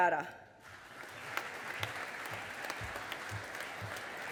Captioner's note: audience applauding